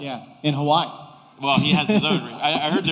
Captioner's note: laughter